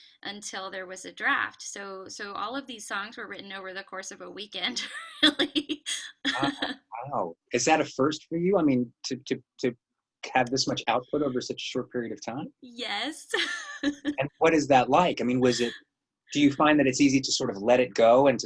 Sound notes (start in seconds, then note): 5.8 laughs; 15.3 laughs